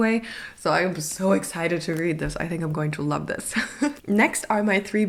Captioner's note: laugh